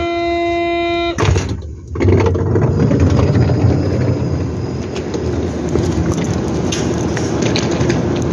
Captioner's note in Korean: 출입문 열림